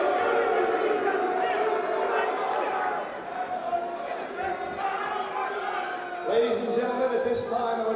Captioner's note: crowd cheering